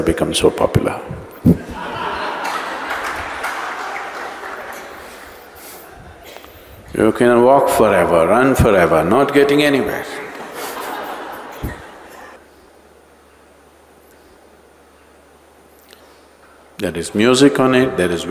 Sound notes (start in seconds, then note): 1.5 all laugh; 10.2 all laugh